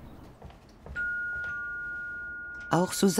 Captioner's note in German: Klingel